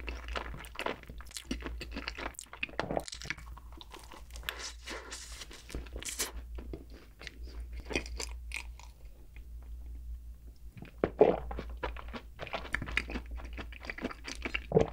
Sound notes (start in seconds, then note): 0.0 chewing it thoroughly~